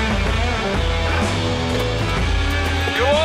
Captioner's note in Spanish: Ruido de la avioneta